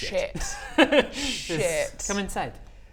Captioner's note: crafty giggle